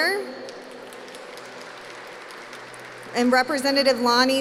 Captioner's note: applause